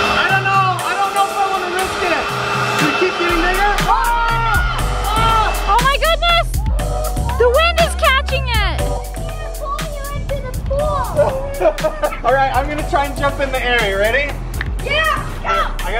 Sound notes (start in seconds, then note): 10.8 laughing